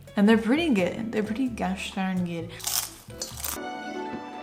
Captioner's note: crunches